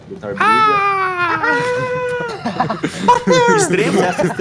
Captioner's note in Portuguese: Risadas